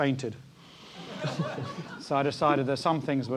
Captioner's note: laugh